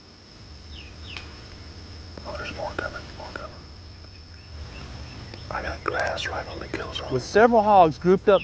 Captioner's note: whispering